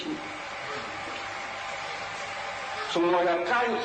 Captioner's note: static